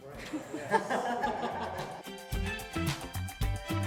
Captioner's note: laughing